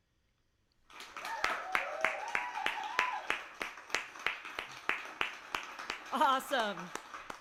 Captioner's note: applause and cheers